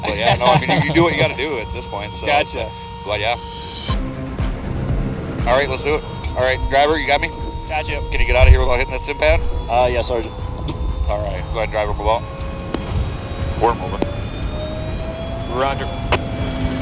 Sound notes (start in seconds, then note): 3.9 dramatic music; 11.1 tank revs